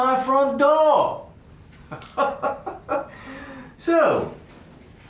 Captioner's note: giggle